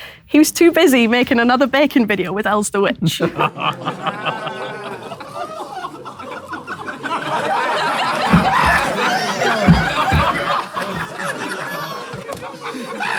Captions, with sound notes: He was too busy making another baking video with Elz the Witch. [people in room laughing]